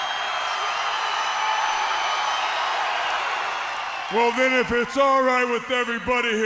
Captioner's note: crowd cheering